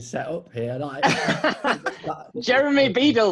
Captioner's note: laughing